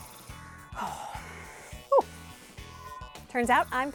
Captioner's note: sighs